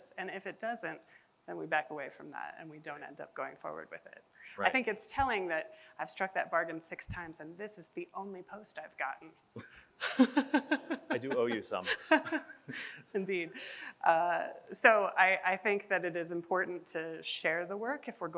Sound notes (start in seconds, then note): 10.0 chuckles